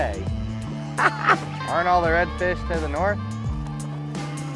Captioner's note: laughs